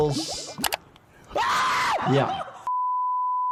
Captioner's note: Ishowspeed screams